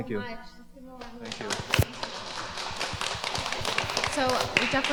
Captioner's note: applause